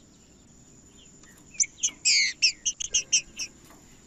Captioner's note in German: trinca ferro cantando